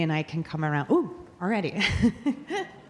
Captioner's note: laughing